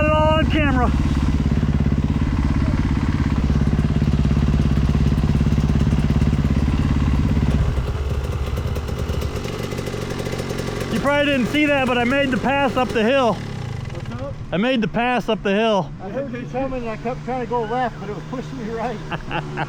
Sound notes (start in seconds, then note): 0.5 laughing; 6.4 engine revving